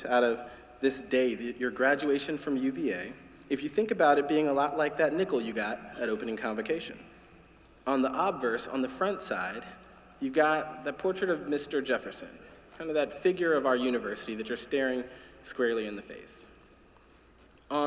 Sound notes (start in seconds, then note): none